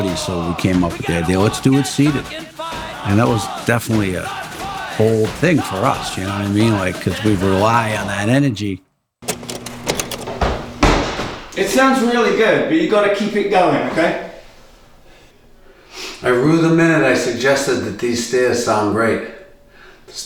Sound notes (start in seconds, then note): 9.2 film rolling